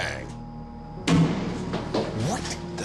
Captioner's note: thud